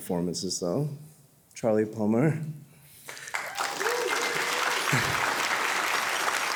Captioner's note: audience cheering